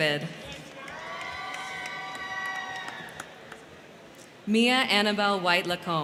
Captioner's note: crowd clapping; crowd cheering